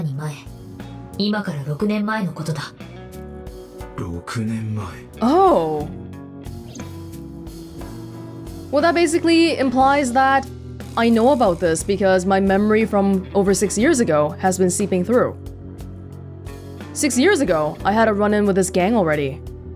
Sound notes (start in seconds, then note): none